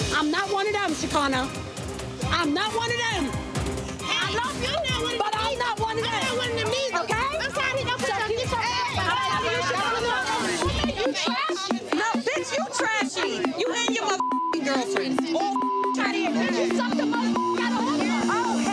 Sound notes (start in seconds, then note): 8.7 girls shouting; 13.9 beep